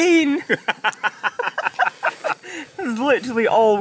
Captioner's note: laughs